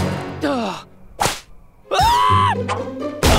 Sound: sighing; groaning; screaming

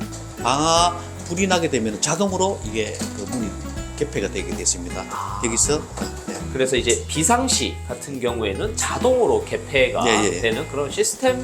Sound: fire

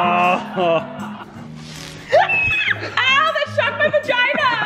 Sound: Colleen shouting

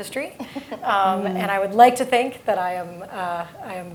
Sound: laugh

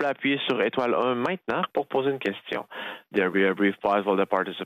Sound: speaking French

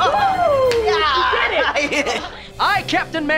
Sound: laughing

